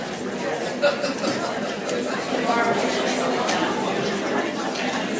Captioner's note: audience chattering faintly